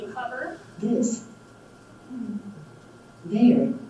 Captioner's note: computer Voice